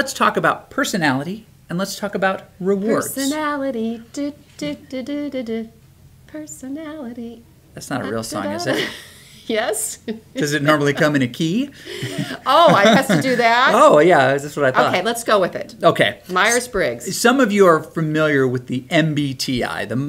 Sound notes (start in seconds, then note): 10.0 laughs